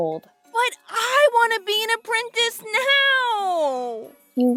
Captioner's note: whiny